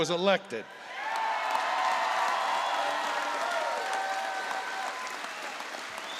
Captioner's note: applause